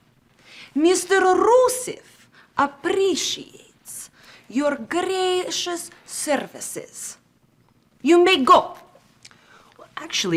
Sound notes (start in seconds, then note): none